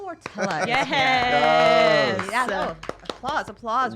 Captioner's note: applaud